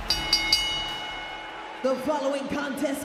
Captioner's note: bell rings